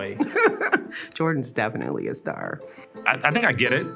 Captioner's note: chuckles